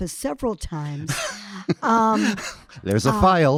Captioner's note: laughing